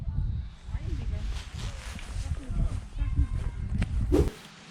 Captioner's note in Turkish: Sokaktan sesler